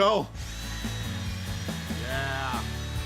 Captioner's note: drilling sound